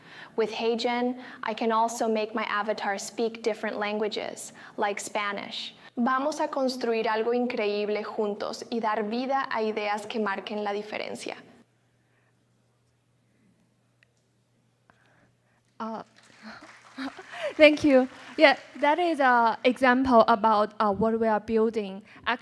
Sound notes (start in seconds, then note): 9.2 spanish